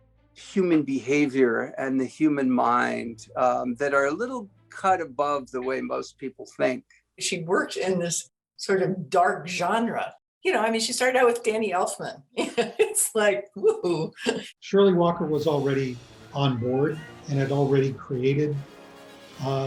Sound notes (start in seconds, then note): 12.4 laughing